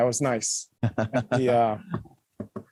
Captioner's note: laughter